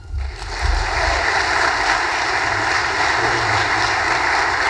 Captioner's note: audience applause